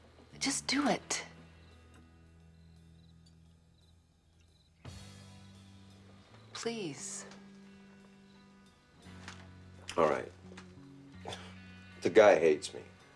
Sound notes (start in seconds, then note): 2.0 dramatic music; 2.0 insects chirping